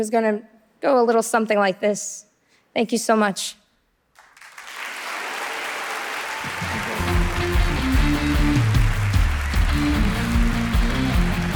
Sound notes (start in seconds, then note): 4.1 audience applauding; 6.6 upbeat music